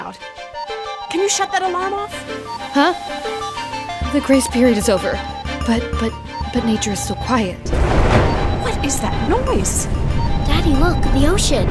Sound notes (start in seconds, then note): 7.6 ringing continues; 7.6 thunder roaring loudly